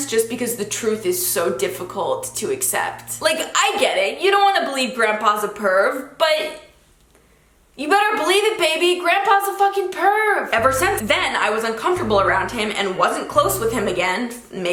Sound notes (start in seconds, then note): none